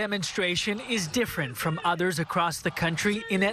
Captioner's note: chanting george floyd